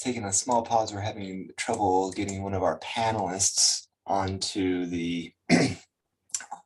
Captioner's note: clears throat